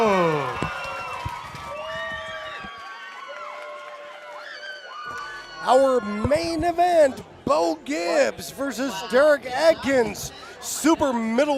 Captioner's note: screaming